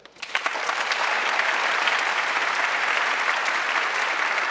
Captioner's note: audience clapping